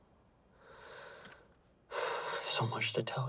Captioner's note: sighs